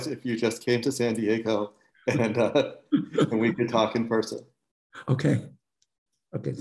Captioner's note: laughter